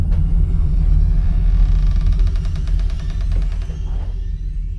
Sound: creaking

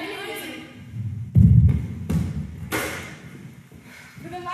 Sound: heavy stomps, slam

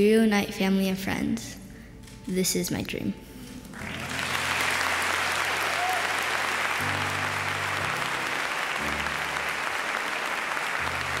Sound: audience applauding

